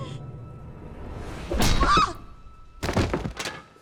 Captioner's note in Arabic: أنجيلا تصرخ